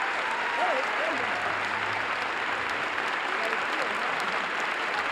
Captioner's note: applause